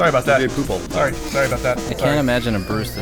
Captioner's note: blowing raspberries